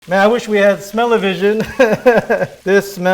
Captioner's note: chuckling